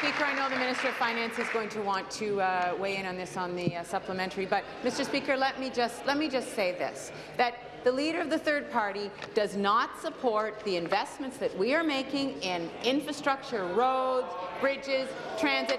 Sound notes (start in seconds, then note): 2.7 applause